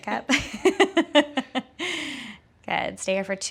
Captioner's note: laughing loudly